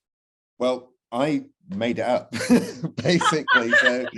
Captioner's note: laugh